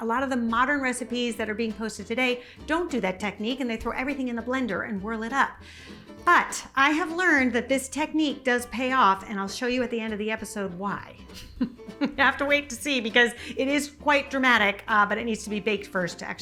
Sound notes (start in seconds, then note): 11.3 laughs